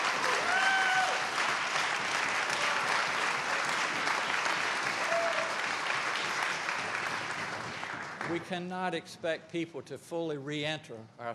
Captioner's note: applause